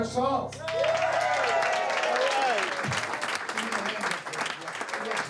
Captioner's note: crowd cheering